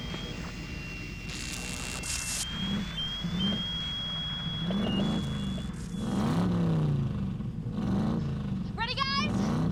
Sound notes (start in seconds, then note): 0.0 loud engine acceleration; 2.2 whistle; 4.1 alarm; 5.6 loud engine acceleration